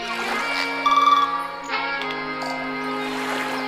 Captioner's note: relaxing horn music; waves crashing